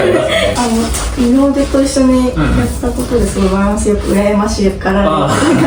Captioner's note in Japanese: 咳払い